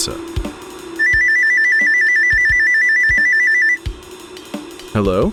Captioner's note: ringing